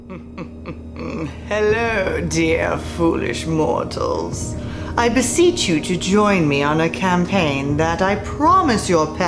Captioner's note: evil laugh